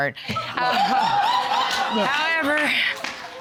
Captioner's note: audience laughing